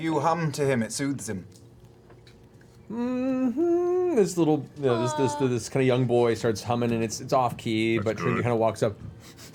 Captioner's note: tentative humming